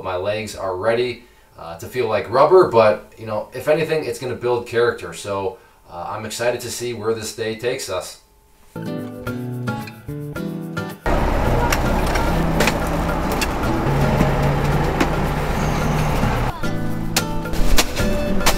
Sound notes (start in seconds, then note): 8.7 laid-back music; 11.0 engine rumbling